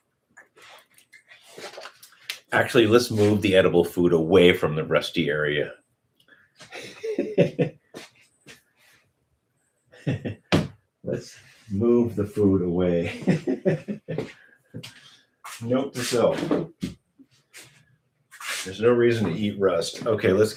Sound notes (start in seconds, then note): 9.9 laughter; 13.0 laughter